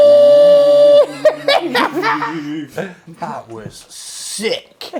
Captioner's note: laughs